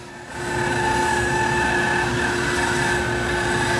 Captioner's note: saw whirring